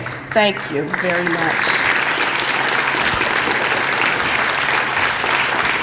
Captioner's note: applause